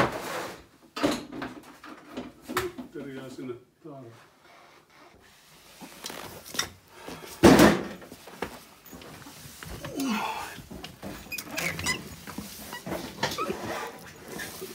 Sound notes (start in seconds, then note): 3.7 squeaking noises